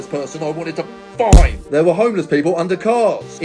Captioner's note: fist thudding